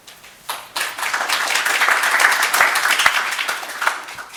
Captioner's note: audience applauding